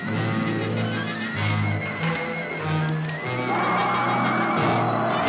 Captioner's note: tires screeching